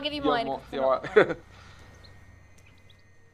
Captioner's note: laughs; tense music